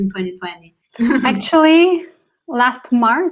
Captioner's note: laughs